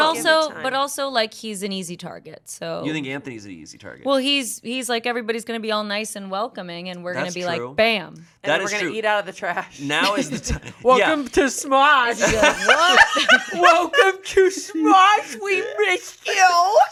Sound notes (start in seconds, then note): 12.1 laughs